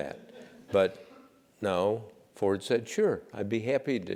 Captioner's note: laugh